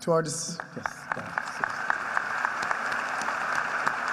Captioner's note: applause